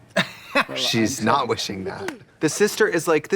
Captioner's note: Katya laughs